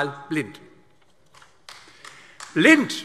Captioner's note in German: Beifall AfD